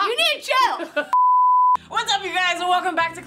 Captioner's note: beeping